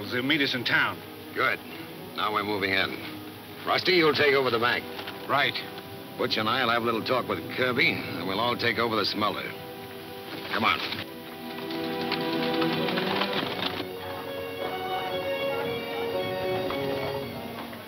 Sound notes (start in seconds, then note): 10.7 hooves clunking; 14.1 adventurous western music